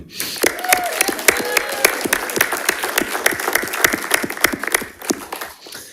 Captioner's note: attendees applauding and cheering